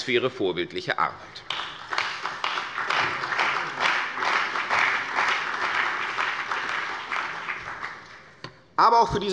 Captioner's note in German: Beifall bei der CDU und dem BÜNDNIS 90/DIE GRÜNEN